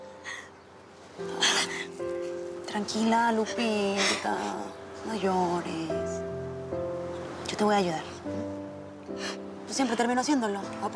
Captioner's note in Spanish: Sollozos